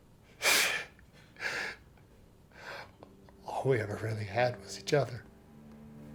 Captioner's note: chuckles